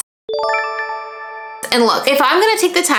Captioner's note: bell chiming